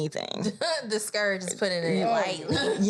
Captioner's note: laughs